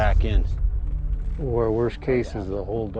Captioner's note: mimics domino effect rustling